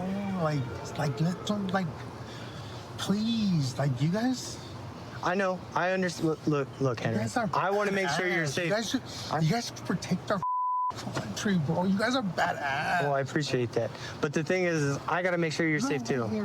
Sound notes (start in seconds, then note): 10.4 beep